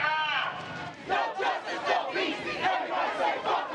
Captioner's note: chanting